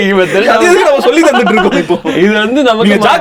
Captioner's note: group laughs